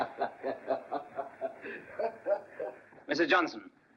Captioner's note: laughing